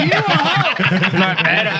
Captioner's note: laughing